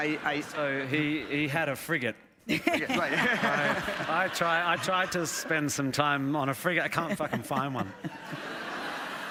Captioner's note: laughter